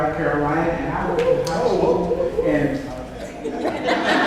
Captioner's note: audience cheers; audience laughs